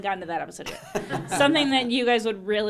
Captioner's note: laughing